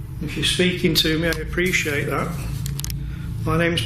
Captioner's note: none